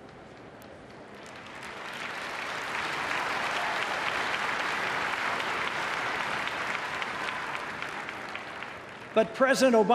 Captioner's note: applause